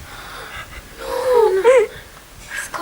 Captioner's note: gasps